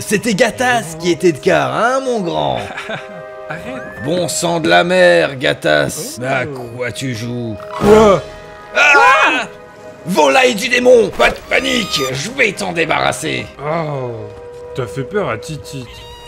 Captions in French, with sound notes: c'était Gatas qui était de quart, hein mon grand *rires de Gatas* - Arrêtes ! - Bon sang de la mer Gatas à quoi tu joues ? - Quoi ? *cries* - Volaille du démon, pas de panique ! Je vais t'en débarrasser - Oh ... T'as fait peur à "Titite"